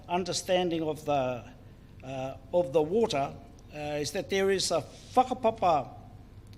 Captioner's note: speaks in foreign language